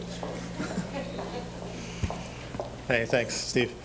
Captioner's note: audience chuckling